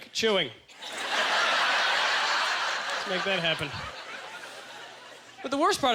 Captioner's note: audience laughter